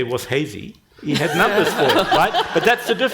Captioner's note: panel and audience laughing